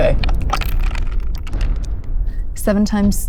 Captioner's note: dice clink